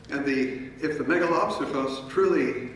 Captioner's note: speaking in foreign language